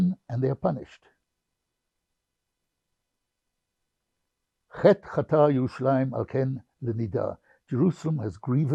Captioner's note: hebrew